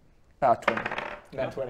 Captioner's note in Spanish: tirada de dados